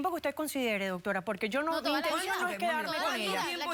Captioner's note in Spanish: Hablan al unísono